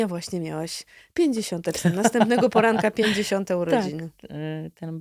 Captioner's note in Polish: śmiech